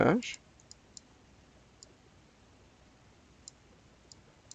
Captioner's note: mouse clicking